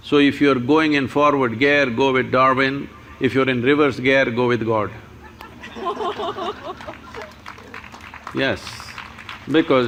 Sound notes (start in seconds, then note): 5.2 laughter/Applause